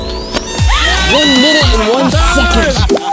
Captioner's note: cheering